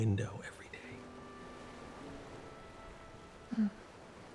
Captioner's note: ocean waves rolling in